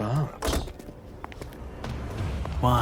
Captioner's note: car doors close